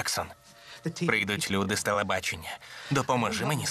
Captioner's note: chuckles